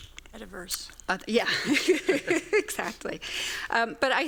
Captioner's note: laughs